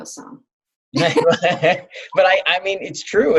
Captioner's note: laughing